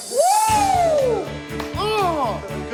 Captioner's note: cheers and applause